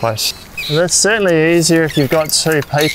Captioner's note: poles clinging